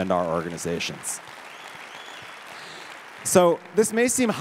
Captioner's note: audience applauds